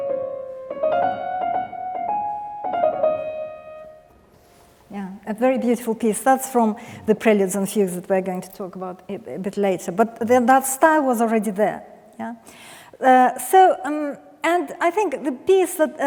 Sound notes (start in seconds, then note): none